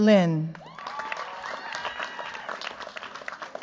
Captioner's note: cheers, applause